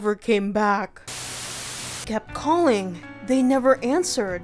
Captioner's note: Static